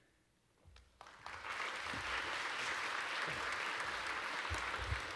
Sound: audience applauding

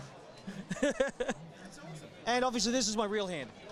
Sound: chuckles

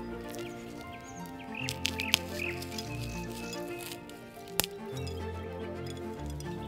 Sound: croissant crackles; sprinkling dried strawberries

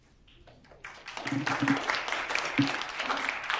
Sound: applause

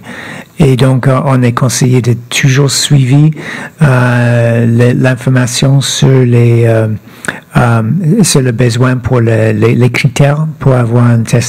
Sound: speaking French

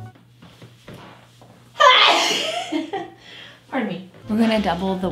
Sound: sneezes

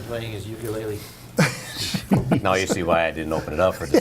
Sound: laughter

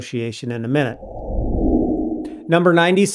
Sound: frame whooshing

